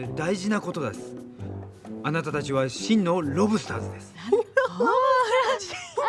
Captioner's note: speaking in foreign language; girls giggling